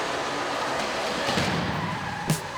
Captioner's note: screeching tires